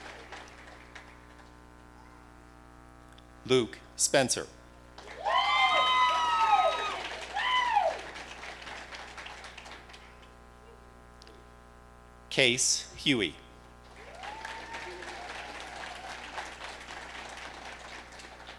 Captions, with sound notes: Luke Spencer. (audience cheering) Case Huey. (audience applauding)